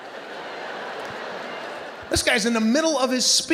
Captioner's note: audience laughing